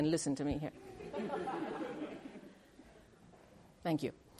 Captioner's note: laughter